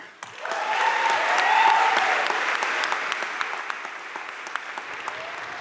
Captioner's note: audience cheering and applauding